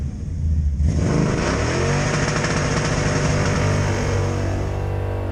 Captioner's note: car engine roaring